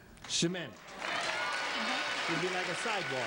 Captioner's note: audience cheers